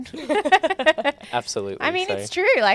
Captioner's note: hosts laugh